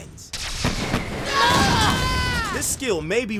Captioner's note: screaming